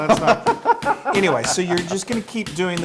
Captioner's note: laugh